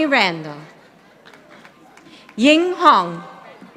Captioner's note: audience applauding